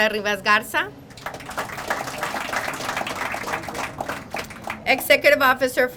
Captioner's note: crowd applauding